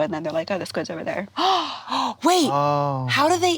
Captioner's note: gasps